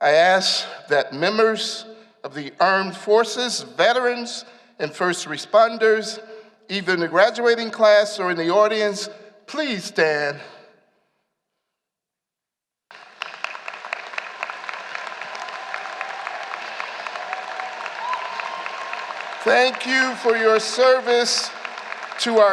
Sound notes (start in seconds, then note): 12.9 applause